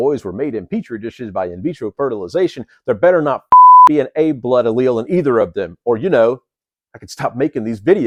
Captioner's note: beep